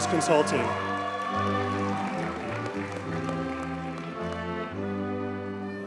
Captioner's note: audience cheers and applauds